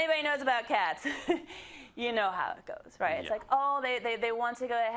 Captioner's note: laugh